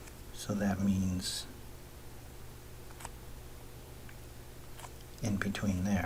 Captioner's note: writing Sounds